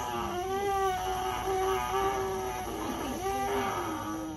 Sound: buzzes on mouthpiece

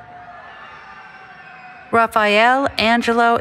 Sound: cheering

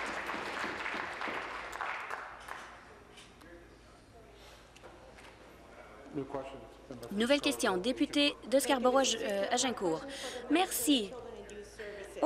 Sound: applause

